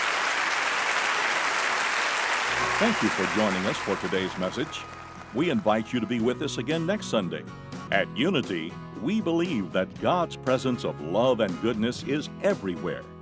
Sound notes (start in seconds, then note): 0.0 applause and cheering; 2.6 voice-over